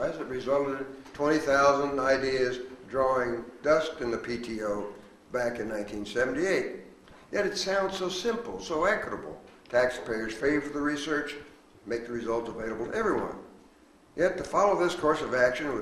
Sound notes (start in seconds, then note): none